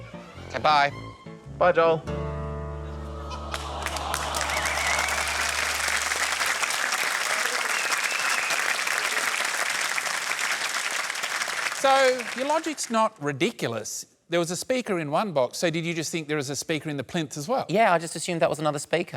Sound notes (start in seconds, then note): 4.9 applause